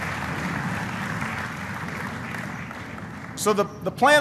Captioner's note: applause